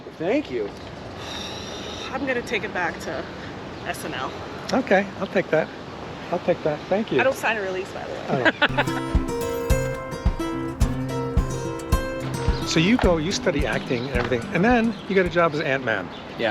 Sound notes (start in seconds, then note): 1.6 hiker sighs; 8.3 Paul laughs; 8.6 mellow music